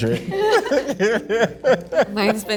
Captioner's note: group laughing